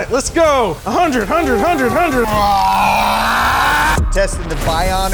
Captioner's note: groaning